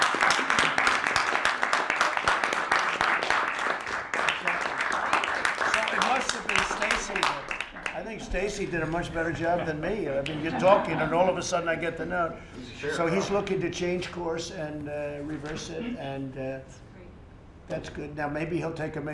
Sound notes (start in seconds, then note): 6.5 applause